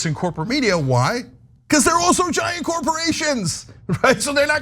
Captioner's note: laugh